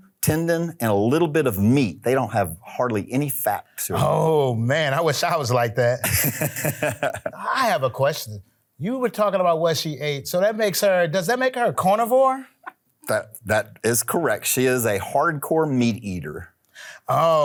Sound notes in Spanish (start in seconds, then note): 6.0 El Sr. Manos Desnudas se ríe